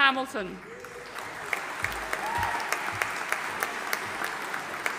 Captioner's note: audience applauding